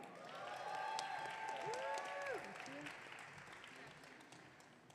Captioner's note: audience cheering